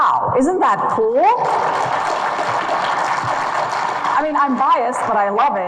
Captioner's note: audience claps